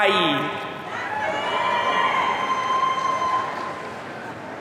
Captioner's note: audience cheering